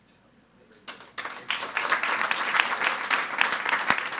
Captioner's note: all applauding